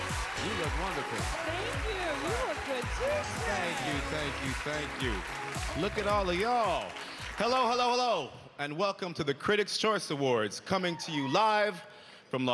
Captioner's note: cheers and applause